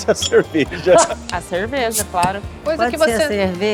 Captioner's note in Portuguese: abertura de lata